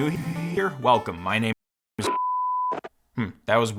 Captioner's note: beep